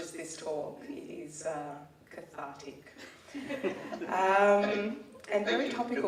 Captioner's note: laughing